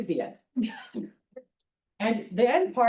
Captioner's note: laughter